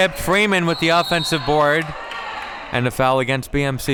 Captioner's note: whistle blows